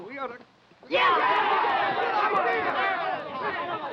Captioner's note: men cheering